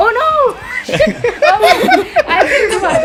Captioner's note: laughter